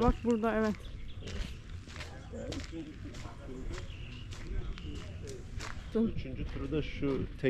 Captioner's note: walking sounds